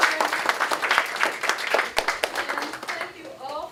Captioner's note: applause